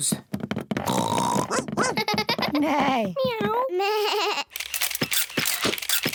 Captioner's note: all make animal noises; camera shutters clicking